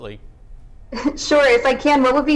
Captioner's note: chuckles